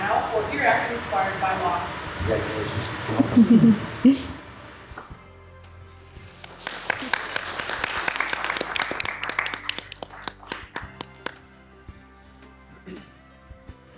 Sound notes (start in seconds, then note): 6.2 audience clapping; 11.2 soft music